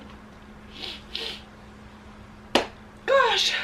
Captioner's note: sniffling